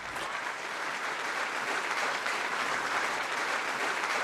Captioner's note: applause